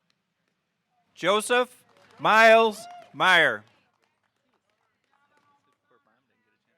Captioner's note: audience hooting